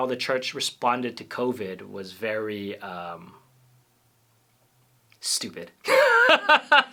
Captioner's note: laughter